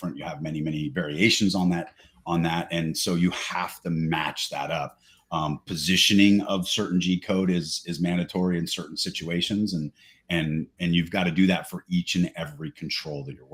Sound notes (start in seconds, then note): none